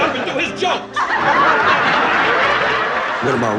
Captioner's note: laughing